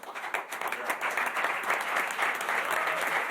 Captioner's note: applause